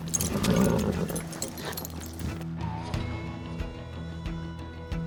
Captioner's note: suspense music; horse blusters; suspense music